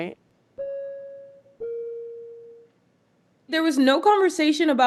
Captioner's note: flight alarm dinging